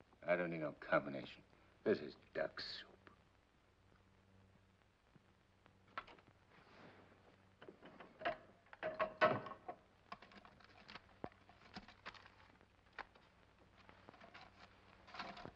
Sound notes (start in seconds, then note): 5.8 click; 8.7 safe clatters